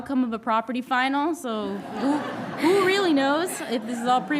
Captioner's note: all chuckling